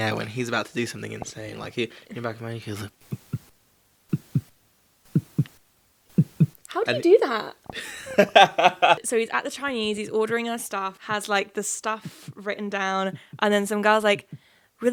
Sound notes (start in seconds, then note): 3.3 heart beating; 7.7 laughing; 12.0 imitating heart beating